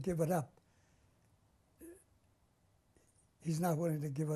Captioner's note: pauses for 3 seconds